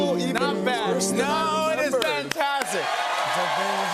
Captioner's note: cheers and applause